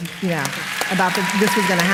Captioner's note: applause